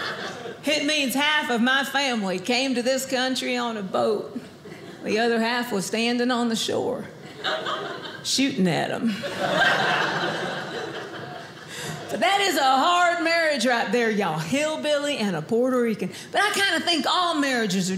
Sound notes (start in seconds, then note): 0.2 southern accent; 9.1 audience laughing